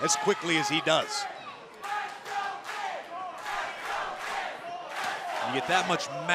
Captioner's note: crowd cheering